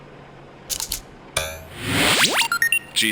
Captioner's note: electronic noises